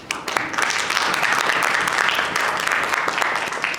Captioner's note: audience applauds